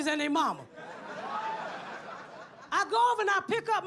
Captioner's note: audience laughs